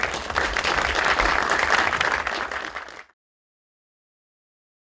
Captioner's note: applause